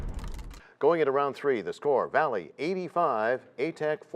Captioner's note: crashing sound